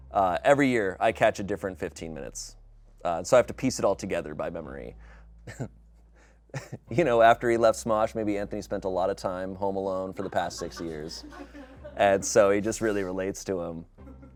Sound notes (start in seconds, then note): 5.4 laughs